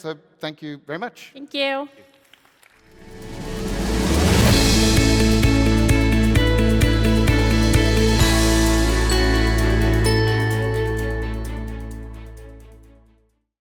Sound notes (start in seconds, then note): 2.3 audience applauds; 3.2 upbeat music